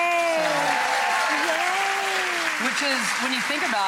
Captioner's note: audience claps